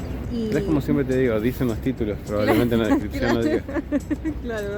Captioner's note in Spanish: risas